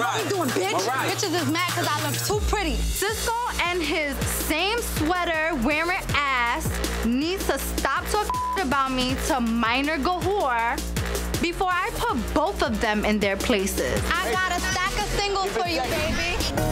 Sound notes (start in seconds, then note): 8.2 beep